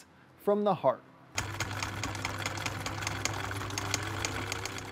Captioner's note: machine whirring